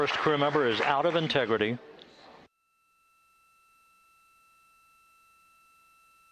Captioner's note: applause